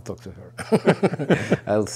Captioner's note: both laughing